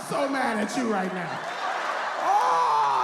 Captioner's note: audience laughs